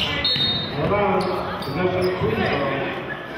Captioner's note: whistling